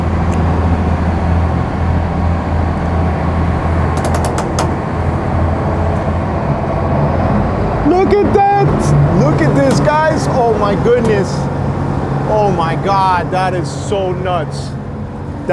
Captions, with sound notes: (boat creaks) Look at that! Look at this guys! Oh my goodness! Oh my god that is so nuts.